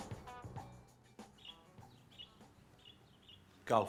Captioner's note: birds chirping